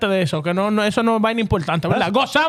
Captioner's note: speaking In Foreign Language